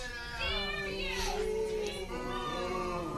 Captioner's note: audience booing